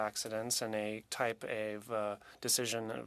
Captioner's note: speaking French